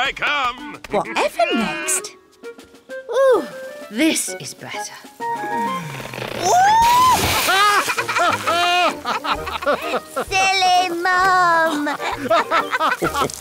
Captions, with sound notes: - Here I come! - Whatever next? This is better. (shrieks) (laughter) Silly Mum!